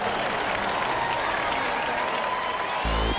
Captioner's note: cheers and applause